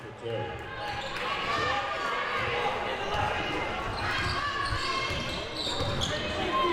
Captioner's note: audience chattering and yelling